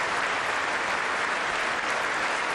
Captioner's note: applause